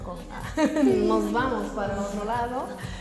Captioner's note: Ríe; laughs